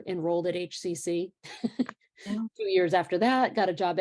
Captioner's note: laughter